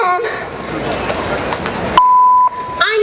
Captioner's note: beep